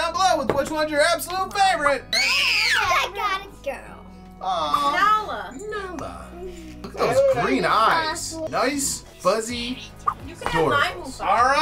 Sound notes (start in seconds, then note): 2.0 shrieks